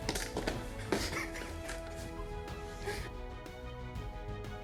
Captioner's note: laughter